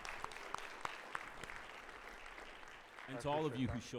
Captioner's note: audience clapping